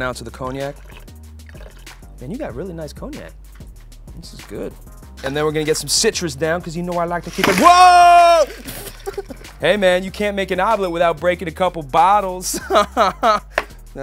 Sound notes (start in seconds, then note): 8.0 laughing; 13.3 laughing